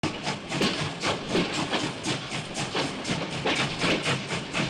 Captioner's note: train wheels clacking